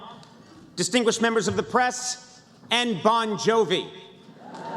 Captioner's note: laughter